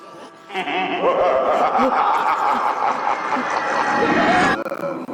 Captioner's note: laughing